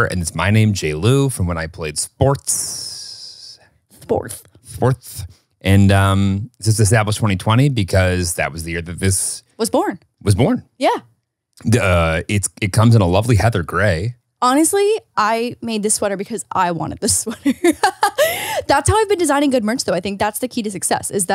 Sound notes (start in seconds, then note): 17.1 laughs